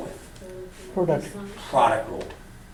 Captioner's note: voiceover